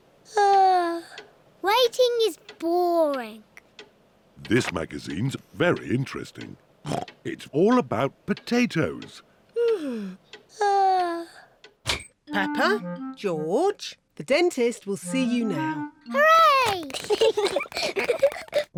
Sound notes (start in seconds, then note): 0.2 yawns; 6.8 snorts; 9.6 yawns; 16.8 both giggle